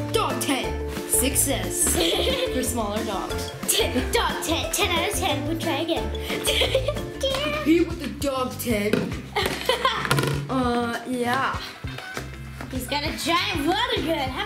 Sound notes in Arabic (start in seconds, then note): 6.1 يضحك; 9.3 يضحك